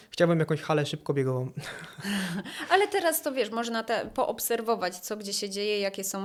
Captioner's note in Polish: śmiech